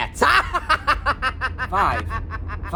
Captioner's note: Cueball laughs diabolically